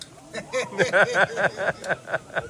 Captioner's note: laughter